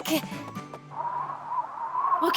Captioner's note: wind noises